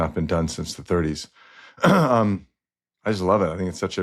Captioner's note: clears throat